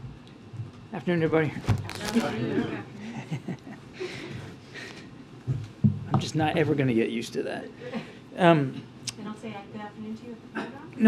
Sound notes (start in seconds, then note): 4.8 laughs